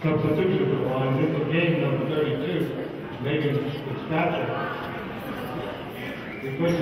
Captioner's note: murmurs